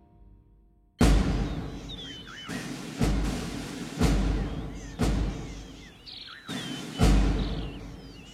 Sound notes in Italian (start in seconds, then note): 5.7 cinguettii